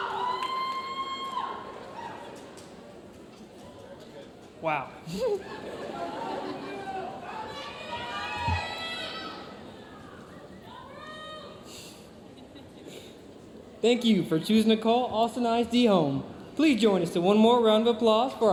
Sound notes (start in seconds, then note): 1.4 audience chattering; 5.0 chuckles; 5.1 audience laughs; 7.3 audience chattering